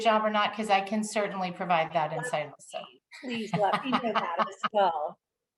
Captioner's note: laughs